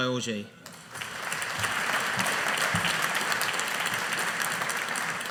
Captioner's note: audience applauding